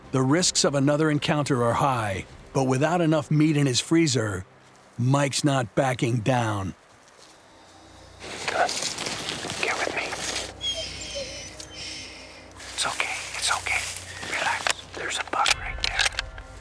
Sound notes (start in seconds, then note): 9.1 whispering; 10.2 dog whinging